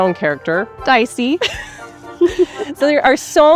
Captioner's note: both laughing